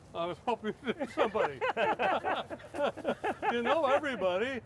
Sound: laughter

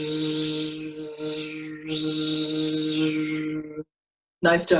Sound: jjjhummmmmm

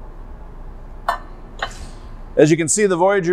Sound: porcelain noise

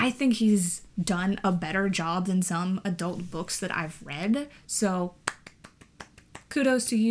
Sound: claps

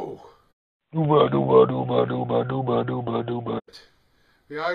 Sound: alien chanting

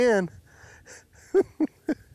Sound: laughs

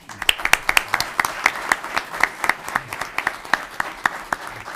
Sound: audience applauding

